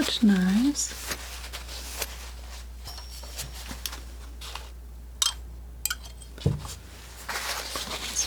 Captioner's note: scratching